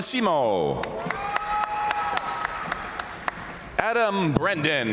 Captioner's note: crowd cheering; crowd applauding